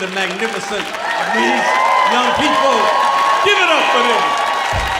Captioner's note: audience cheering